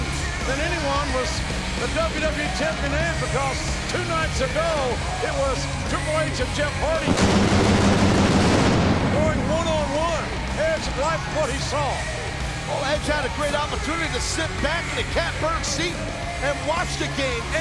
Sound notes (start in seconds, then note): 7.0 pyro blasting